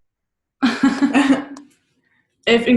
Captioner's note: giggling